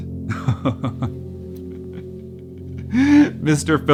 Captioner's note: laughing